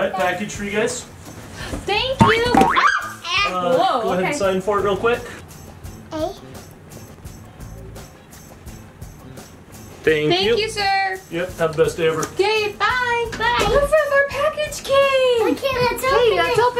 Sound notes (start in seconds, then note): 2.7 mom screaming; 7.3 upbeat music